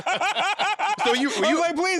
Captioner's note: laughing